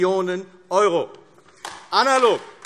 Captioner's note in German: Beifall AfD